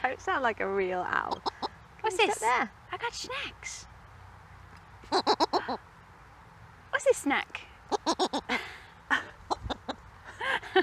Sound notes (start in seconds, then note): 5.0 owl jabbers; 9.4 owl jabbers; 10.5 both laugh